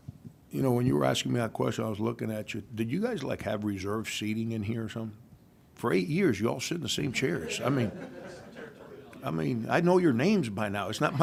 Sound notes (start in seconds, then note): 7.1 laughing